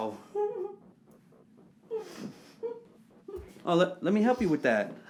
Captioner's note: Kathy crying faintly